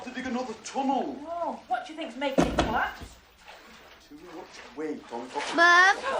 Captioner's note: knock on window